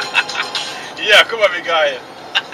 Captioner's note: laughter